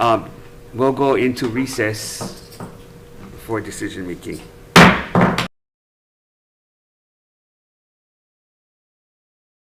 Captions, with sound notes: so we'll go into recess before decision-making. (gavel bangs)